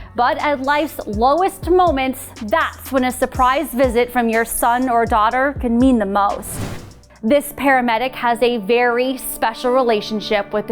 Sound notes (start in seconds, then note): none